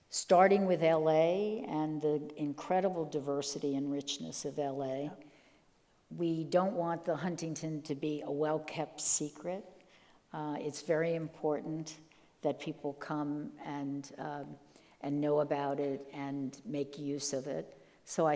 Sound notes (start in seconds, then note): none